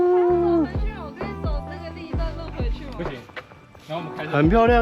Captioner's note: the group is chatting